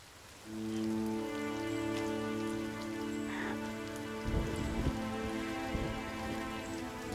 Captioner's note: solemn music; Morgana cries